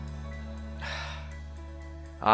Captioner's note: sigh